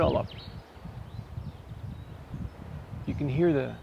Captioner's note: birds chirping in the gentle breeze